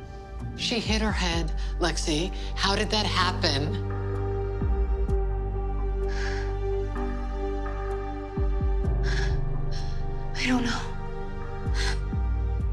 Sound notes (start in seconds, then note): 6.0 heavy breathing